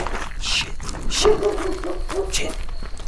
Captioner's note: dog barks; footsteps crunching; insects chittering; dog barks